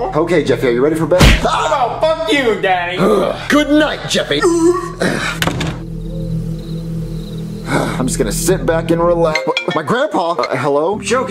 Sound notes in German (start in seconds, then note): 1.2 thump